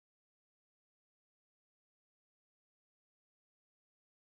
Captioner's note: none